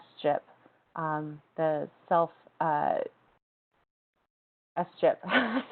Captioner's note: laughs